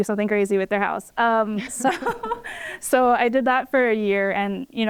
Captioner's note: laughter